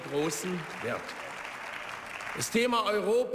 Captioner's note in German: Beifall